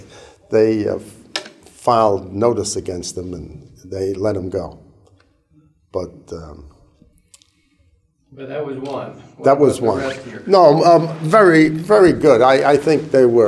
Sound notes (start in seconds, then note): 0.0 chuckle